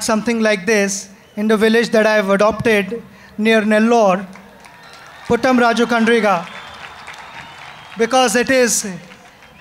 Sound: applause

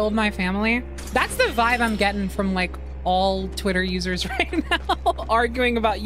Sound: laughter

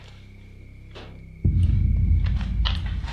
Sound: knock

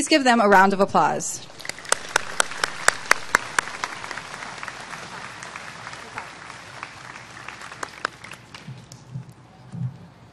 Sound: applause

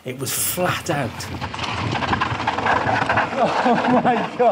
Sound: bikes going over rough stone

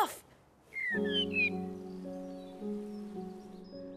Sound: bird singing

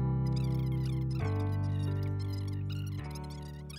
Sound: squeaking

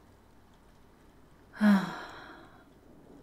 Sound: she sighs contentedly as lightning cracks overhead

